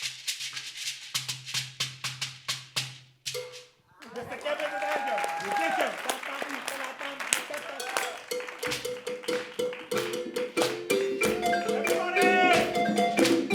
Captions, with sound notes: Mr. Kevin Nathaniel. (audience claps) (upbeat balafon music)